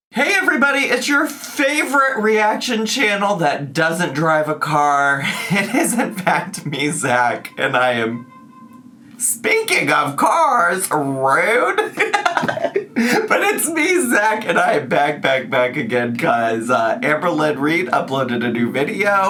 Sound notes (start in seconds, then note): 7.8 car horn honks; 11.7 laughs